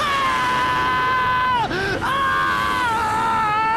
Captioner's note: screaming